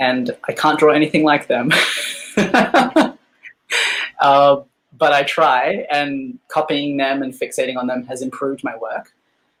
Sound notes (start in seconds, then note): 1.7 laughing